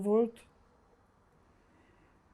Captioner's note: pauses 6 seconds